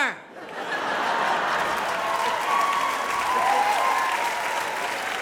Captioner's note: audience applause